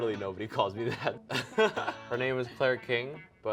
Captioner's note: laughter